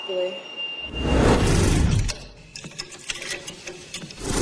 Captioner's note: wind whooshing